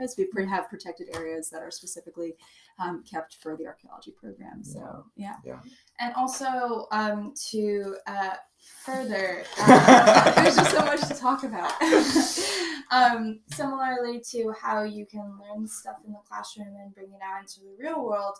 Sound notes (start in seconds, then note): 9.4 laughter